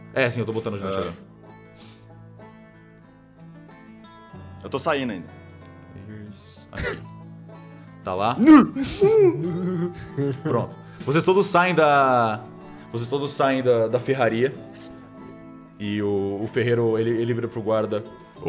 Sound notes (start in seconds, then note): 8.4 laughs